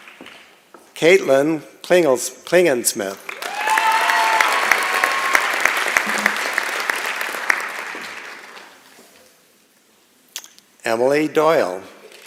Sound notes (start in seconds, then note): 0.0 applause and Cheering; 3.2 applause and Cheering